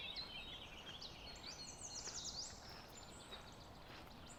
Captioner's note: footsteps on gravel